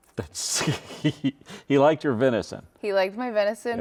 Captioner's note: laughs